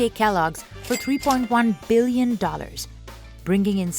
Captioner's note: cash register ka-chings